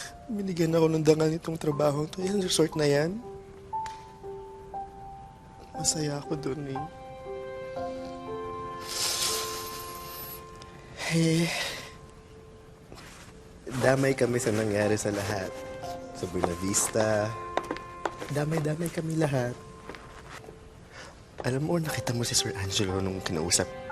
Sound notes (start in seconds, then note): 10.9 sighs